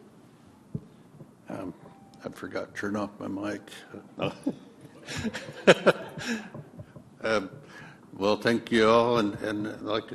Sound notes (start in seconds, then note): 4.8 laughter